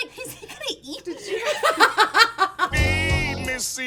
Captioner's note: all laugh